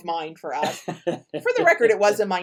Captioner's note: laughs